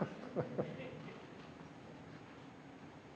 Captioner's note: laughter